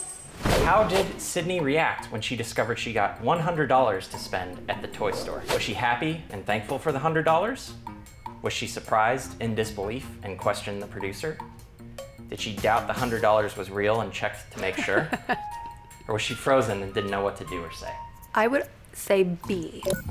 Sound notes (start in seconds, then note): 14.6 chuckles